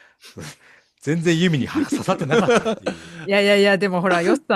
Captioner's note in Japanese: 笑い